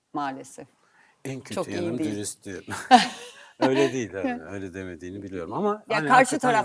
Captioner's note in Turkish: kahkaha